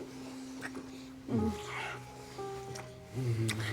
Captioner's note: both moaning